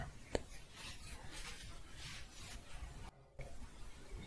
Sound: shuffling

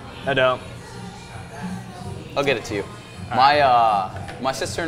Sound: none

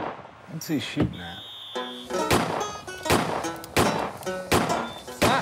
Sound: gunshots

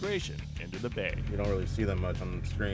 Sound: boat engine running

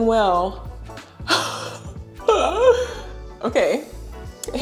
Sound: laughs

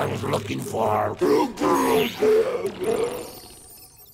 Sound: grunting

